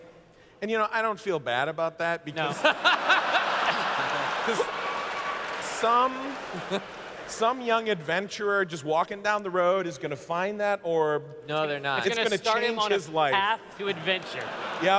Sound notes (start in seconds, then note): 2.4 laughter